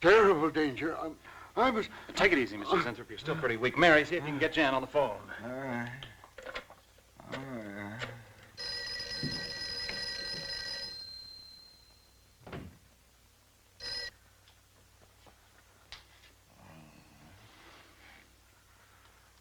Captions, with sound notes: Terrible danger. I must-- Take it easy, Mr. Zinthrop. You're still pretty weak. Mary, see if you can get Jan on the phone. All right. (phone ringing)